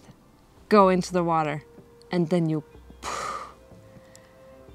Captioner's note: exhale